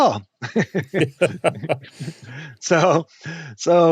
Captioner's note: chuckling